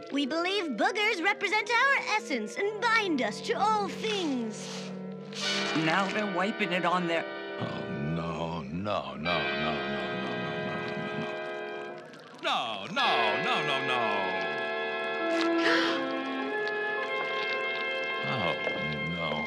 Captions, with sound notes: - We believe boogers represent our essence and bind us to all things. - Now they're wiping it on their- - Oh, no, no, no, no, no, no, no. No, no, no, no, no. (Crusher gasps) Oh no.